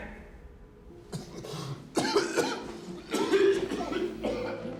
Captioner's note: coughs